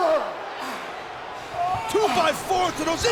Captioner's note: person groaning